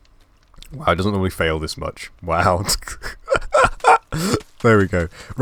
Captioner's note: laugh